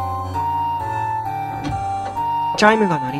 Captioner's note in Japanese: 扉の開閉音：ガッタン; 足音：コツコツコツコツ･･･